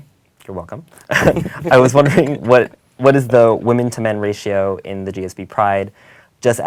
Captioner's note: laugh